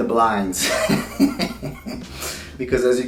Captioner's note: laughing